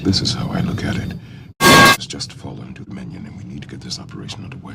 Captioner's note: metal clang